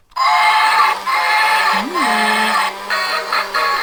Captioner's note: toy train whistling